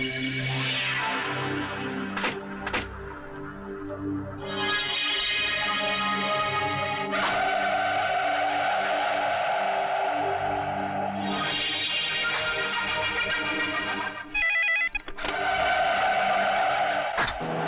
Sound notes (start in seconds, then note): 14.3 phone Ringing